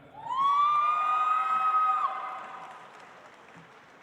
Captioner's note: audience applauds